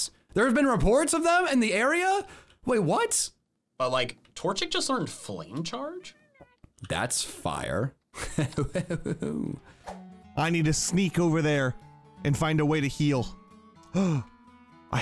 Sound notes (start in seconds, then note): 8.2 laughs